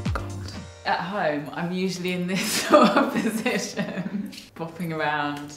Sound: laughs

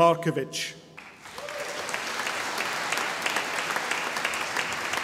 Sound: audience applauding

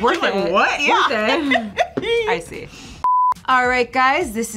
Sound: laughter

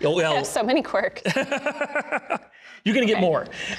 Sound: laughing

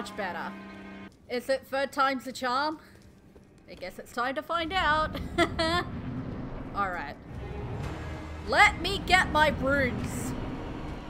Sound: laughter

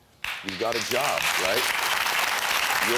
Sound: audience clapping

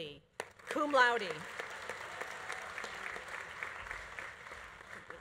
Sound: audience applauding

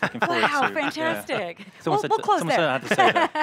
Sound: laughter

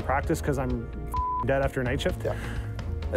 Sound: beep

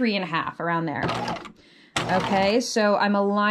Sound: sewing machine clunking

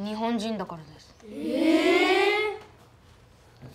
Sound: children gasp in skepticism

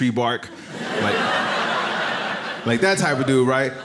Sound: audience laughs

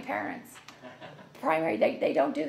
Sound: laughs

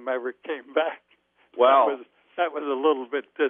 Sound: laughs

